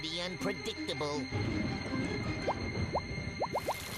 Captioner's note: thunder rumbling